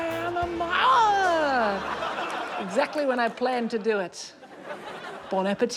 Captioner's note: laughter